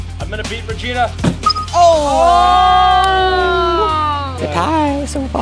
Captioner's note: hollow thud; shocked cheers